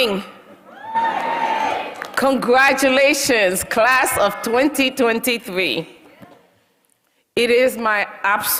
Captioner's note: applause